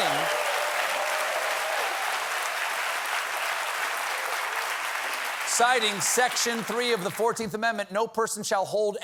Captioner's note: cheers and applause